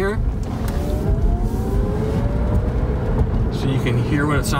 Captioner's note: engine revving quietly